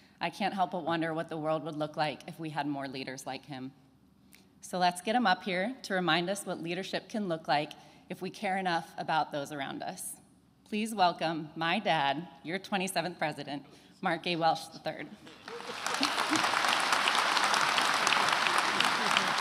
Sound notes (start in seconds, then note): 15.2 attendees applauding